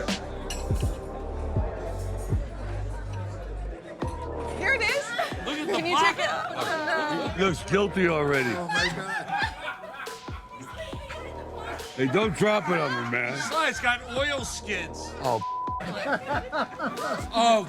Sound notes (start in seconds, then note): 0.2 calm music; 8.3 laughing